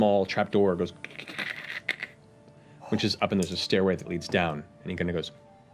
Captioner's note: creaking